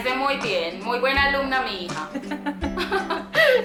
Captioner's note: laughs